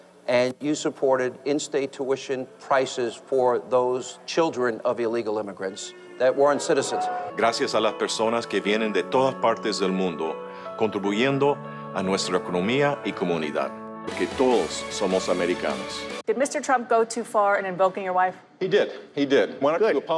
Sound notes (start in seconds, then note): 6.4 soft music; 7.6 speaking in foreign language